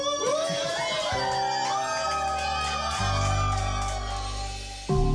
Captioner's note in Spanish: algarabía y aplausos